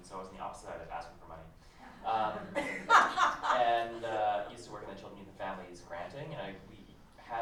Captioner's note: laughter